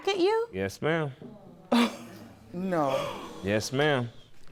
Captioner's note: gasps